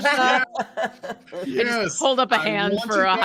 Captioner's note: all laughing